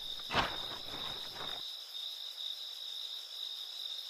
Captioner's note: crickets chirping